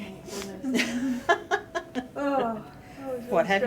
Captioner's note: laughter